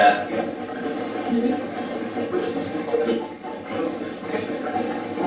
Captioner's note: static playback transmitting